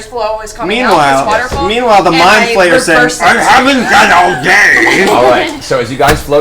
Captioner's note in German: raue Stimme